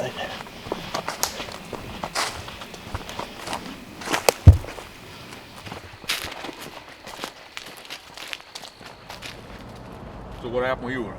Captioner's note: sticks breaking /walking noises